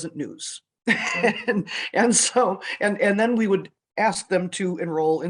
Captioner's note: laughs